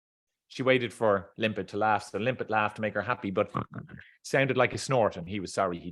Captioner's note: snorts